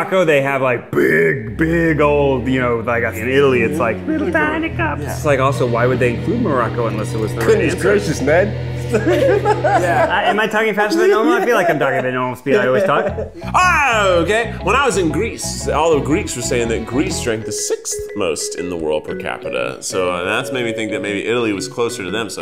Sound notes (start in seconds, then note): 4.1 speaking high pitched; 8.9 giggling; 13.5 shouts